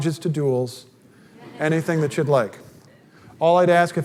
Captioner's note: audience laughter